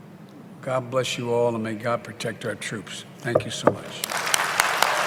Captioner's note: applause